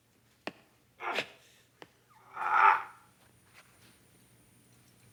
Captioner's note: Leslie grunting